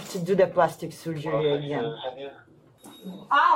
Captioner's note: radio chatter